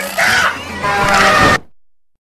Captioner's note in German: screams